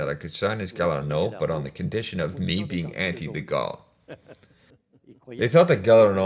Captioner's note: laughs